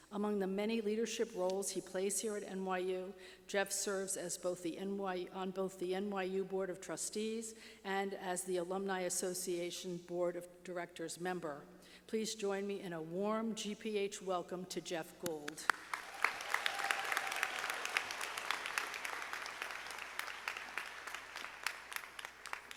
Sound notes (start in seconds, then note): 15.4 clapping; 15.6 audience applauding